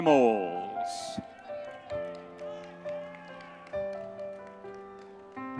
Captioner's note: audience members cheering; gentle piano music continues